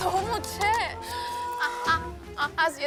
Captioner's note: sighing